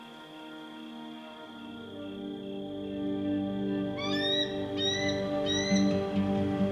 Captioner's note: eagle calling